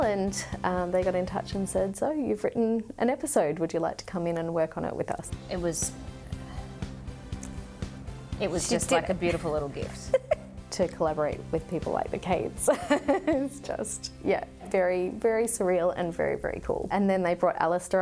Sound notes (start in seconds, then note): 13.1 laughs